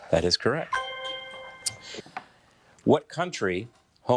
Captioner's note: bell dinging